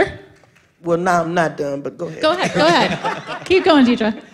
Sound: laughter

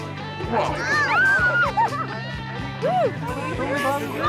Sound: upbeat music; girls squealing; people chattering

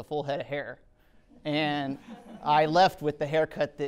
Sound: audience chuckling

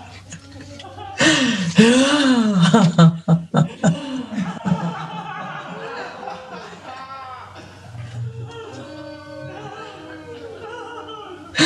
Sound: laughs

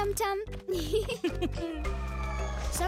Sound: both giggling

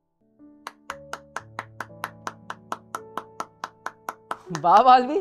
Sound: claps

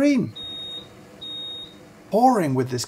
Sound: kettle beeps

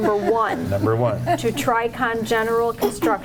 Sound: woman laughing

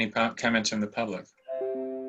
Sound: chime

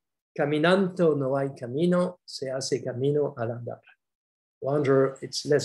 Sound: speaks foreign language

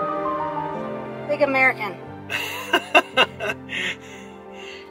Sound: laughing

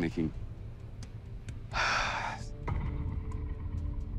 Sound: sigh

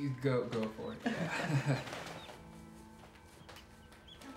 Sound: nervous laughter

